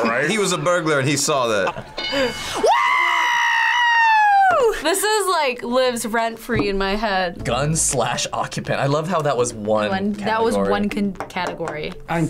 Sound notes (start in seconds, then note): 1.8 bell rings